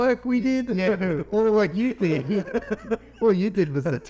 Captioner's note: laughing